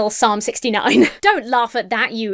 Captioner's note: laughs